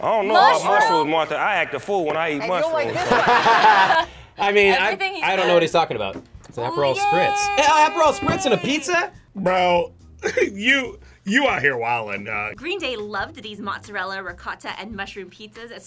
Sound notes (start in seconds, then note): 2.9 both laugh; 7.6 laughs